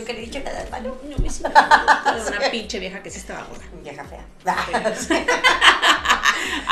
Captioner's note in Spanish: risas sarcasmo